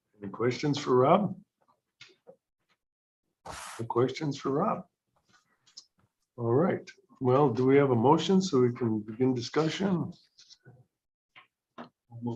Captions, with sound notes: Any questions for Rob? [Silence] Questions for Rob? All right. Well, do we have a motion so we can begin discussion?